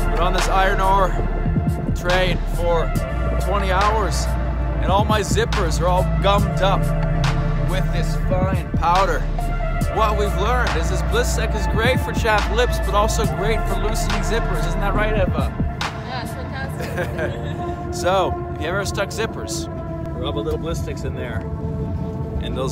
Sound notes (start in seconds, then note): 16.6 both laughing